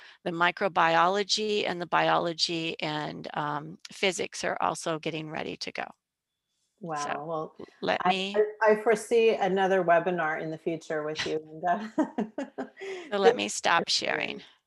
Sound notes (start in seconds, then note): 11.7 laughter